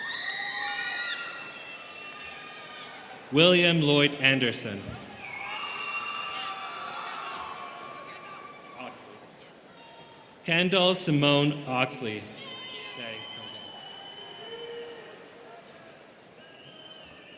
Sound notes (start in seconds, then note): 0.0 students cheering; 5.0 students cheering